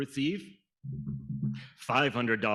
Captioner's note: fingers tapping